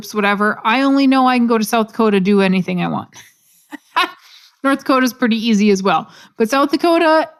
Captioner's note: laugh